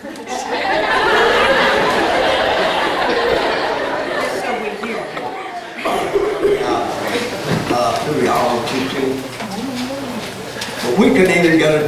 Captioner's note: laughter